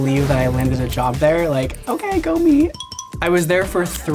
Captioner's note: two bells chime